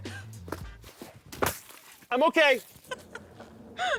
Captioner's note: laughs